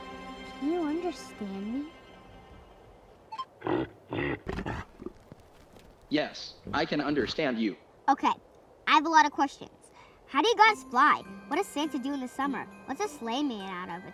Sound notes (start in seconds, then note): 3.3 beep; 3.6 reindeer grunting